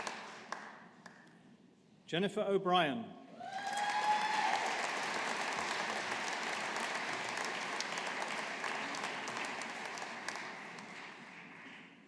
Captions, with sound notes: Jennifer O'Brien. (AUDIENCE APPLAUDING)